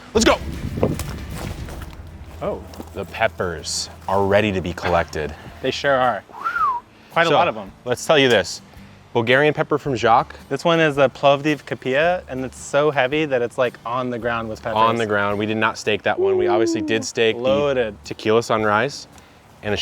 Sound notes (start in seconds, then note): 11.4 foreign language